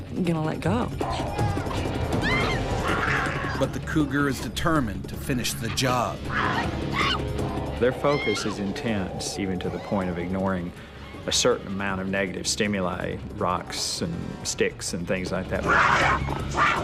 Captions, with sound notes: gonna let go. (screams) - [Voiceover] But the cougar is determined to finish the job. - Their focus is intense even to the point of ignoring a certain amount of negative stimuli. Rocks and sticks and things like that.